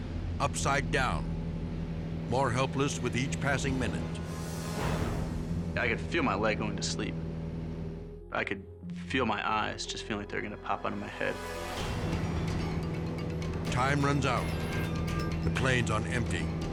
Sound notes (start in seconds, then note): 4.3 edgy dramatic music; 7.5 plane humming; 11.3 dramatic air whoosh; 12.7 edgy dramatic music; 12.7 plane humming; 16.5 edgy dramatic music